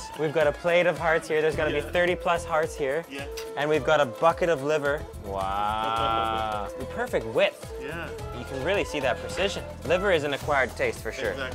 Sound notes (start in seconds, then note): 5.5 laughs